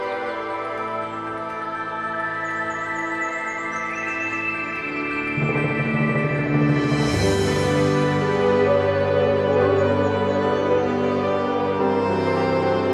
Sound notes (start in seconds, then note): 0.8 serene music; 6.8 bright music; 9.0 dogs howling